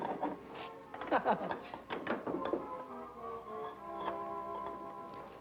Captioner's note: Billy chuckling